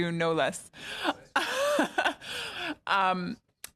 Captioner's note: laughter